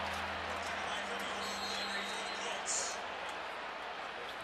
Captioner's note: pa announcement